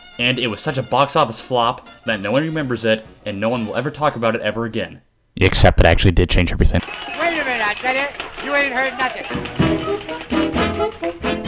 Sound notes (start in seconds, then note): 5.4 mic Earrape